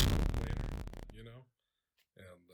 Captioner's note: electronic buzzing